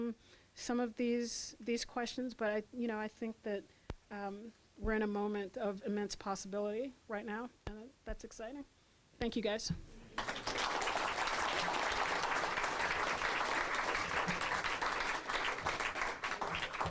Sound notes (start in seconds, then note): 10.2 applause